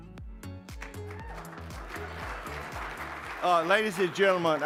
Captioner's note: audience applauding